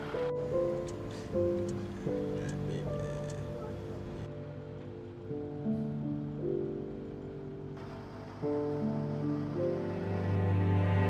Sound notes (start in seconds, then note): 5.3 dramatic music; 5.3 truck engine rumbling